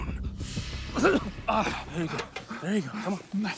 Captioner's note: bartram coughs